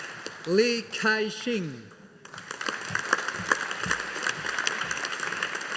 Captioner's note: audience applauding